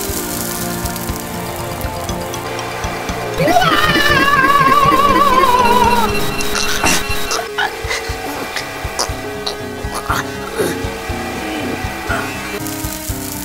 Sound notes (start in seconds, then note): 3.4 screams